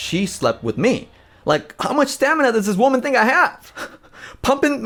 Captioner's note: chuckles